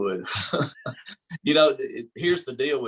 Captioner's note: laughter